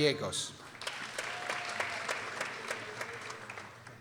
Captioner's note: people applauding